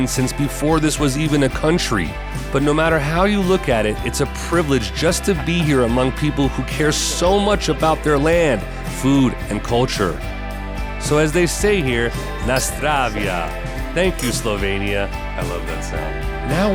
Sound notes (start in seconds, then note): 14.7 glasses clinking